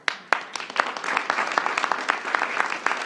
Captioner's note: applause